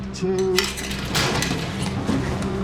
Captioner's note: grate being pulled away